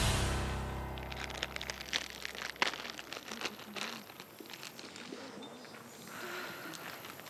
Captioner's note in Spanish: ruido al abrir la bolsa